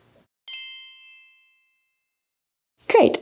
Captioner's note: bells chiming